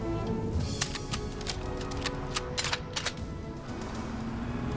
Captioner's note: suspenseful music; guns cocking